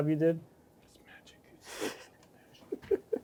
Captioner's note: whispers